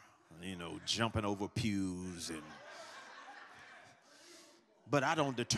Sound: congregation laughs

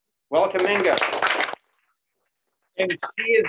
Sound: applause

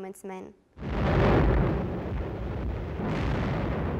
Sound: explosions

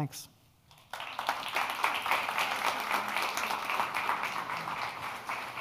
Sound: audience applauding

